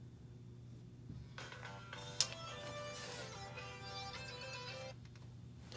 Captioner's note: ringtone plays, then shuts off